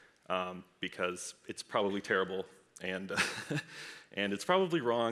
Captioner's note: laughs